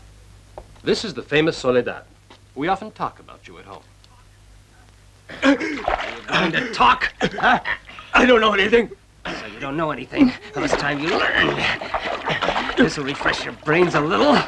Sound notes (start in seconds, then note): 5.3 gasping